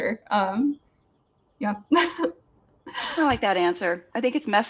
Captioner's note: laughs